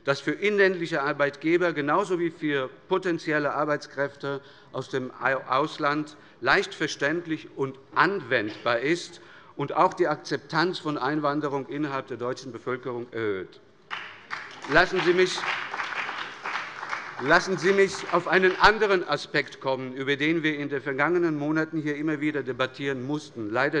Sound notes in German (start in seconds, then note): 13.8 Beifall bei der SPD und bei Abgeordneten der FDP